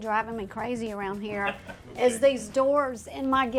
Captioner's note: chuckles